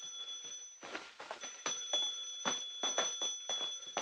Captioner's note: ringing continues